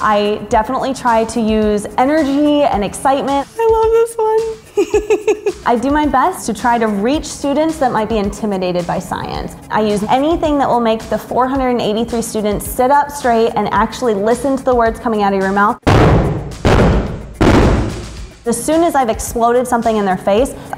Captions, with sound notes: I definitely try to use energy and excitement. I love this one. I do my best to try to reach students that might be intimidated by science. I use anything that will make the 483 students sit up straight and actually listen to the words coming out of your mouth. (banging) As soon as I've exploded something in their face,